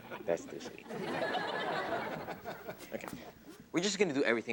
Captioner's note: audience laughs